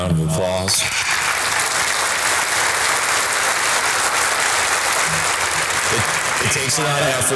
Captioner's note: audience applause